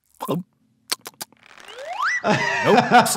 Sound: doctor gulps; lips smacking

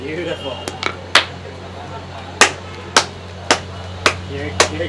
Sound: slapping

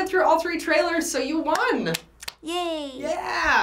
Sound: claps

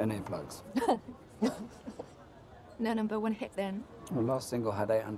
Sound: laughter

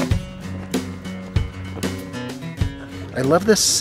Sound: giggling

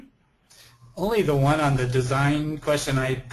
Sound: voiceover

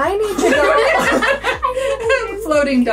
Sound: group laughs

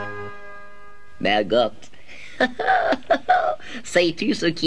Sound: chuckles

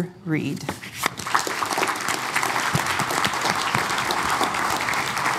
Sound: applause

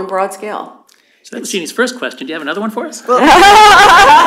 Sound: laughter

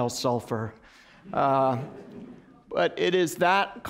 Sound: laughter

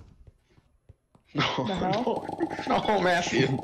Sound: sighs from everyone

